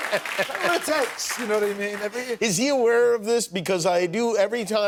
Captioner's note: laughter